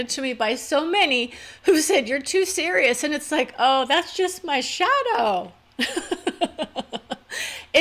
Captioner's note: laugh